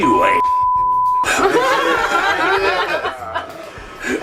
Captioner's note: laughter